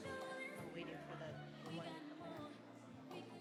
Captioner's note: speaks faintly